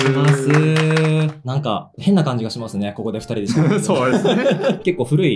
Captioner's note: laughs